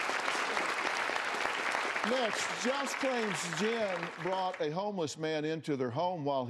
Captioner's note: applause